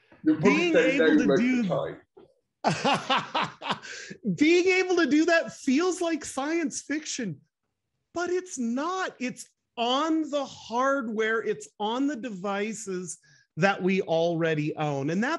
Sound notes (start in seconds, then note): 2.6 laughing loudly